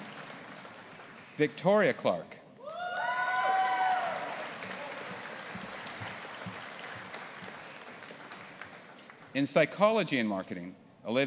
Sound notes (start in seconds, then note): 2.6 audience applauding and cheering